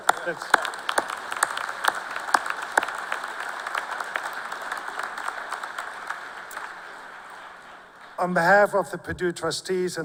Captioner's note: cheers and applause